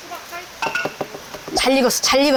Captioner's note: knock knock knock